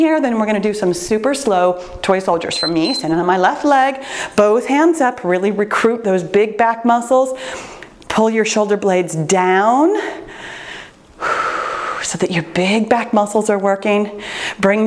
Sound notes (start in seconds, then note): 2.4 timer beeps; 10.0 breathes deeply